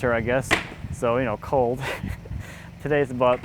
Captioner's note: laughing